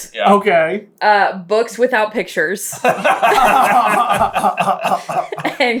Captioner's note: laughter